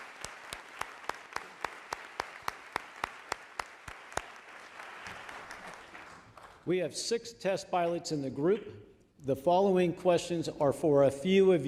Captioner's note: applause